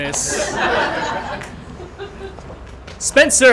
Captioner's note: laughter